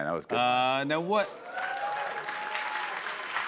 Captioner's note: cheers and applause